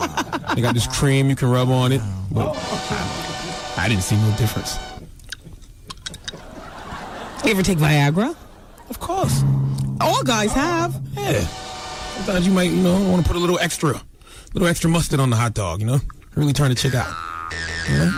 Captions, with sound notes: (laughs) You got this cream you can rub on it. I didn't see no difference. (kissing) Do you ever take Viagra? Of course. All guys have. Yeah. I thought you might want to put a little extra. Little extra mustard on the hot dog, you know? Really turn the chick out.